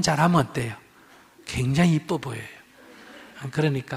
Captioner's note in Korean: 청중 웃음